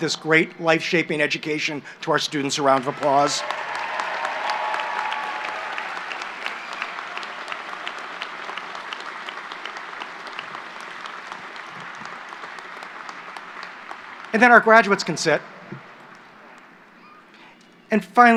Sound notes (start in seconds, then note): 2.6 applause